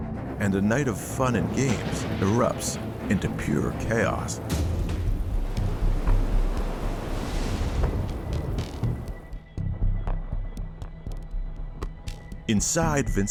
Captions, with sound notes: (waves crashing) (thunder rumbling) (suspenseful music) Inside Vincent's stateroom, the two couples,